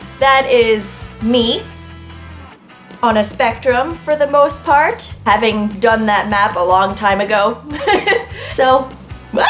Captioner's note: laughs